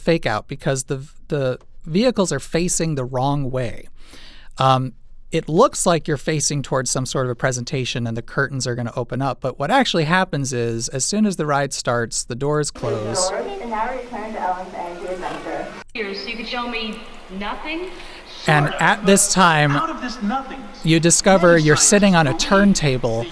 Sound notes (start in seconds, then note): 13.4 cast member announcing over PA; 15.9 ride audio, speaking